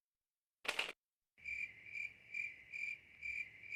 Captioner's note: crickets chirping